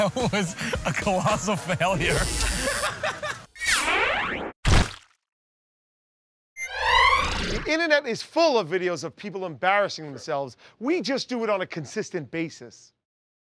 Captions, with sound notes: That was a colossal failure. [ Buzzer! ]